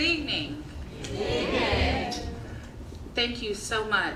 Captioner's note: crowd